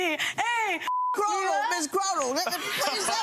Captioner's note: beep